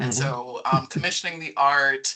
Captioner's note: chuckling